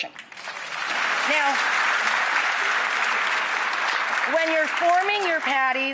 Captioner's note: audience applauding